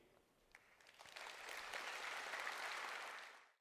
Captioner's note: applause